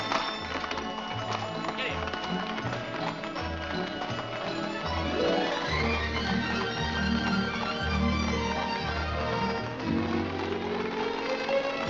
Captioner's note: hooves trotting